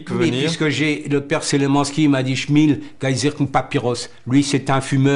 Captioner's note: foreign language